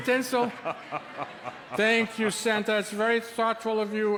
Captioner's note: Santa chuckles